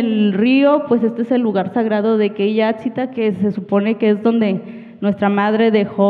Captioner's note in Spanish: habla en wixárika